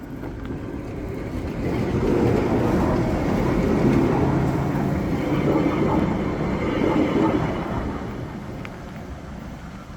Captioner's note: sound of tram passing